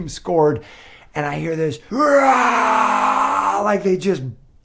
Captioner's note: cheers